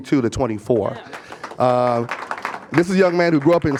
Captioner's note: applause